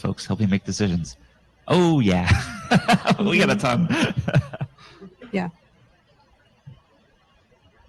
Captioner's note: laughs